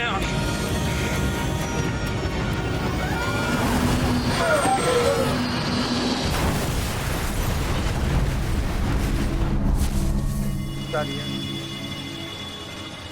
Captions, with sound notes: Landing gear down! (plane engine hissing) (passengers groaning) (exploding)